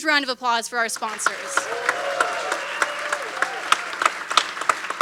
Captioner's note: cheers, applause